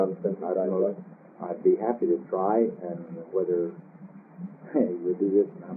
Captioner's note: laughs